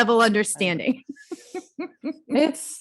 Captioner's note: laughs